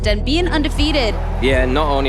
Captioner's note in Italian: applausi